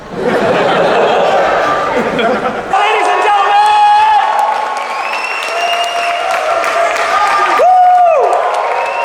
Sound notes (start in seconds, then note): 0.0 crowd laughing; 4.4 crowd cheering